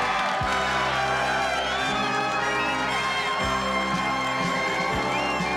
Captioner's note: cheering